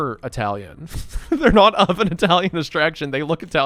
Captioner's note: laughs